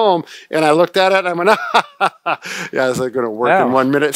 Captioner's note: laughing